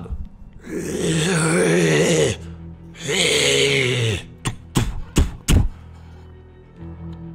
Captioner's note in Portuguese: rrrggh